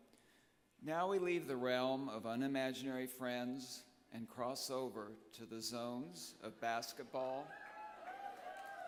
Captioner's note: applause